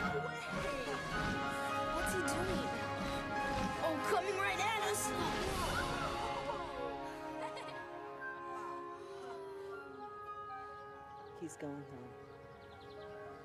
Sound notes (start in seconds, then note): 6.3 laughs